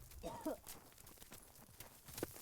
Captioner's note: coughing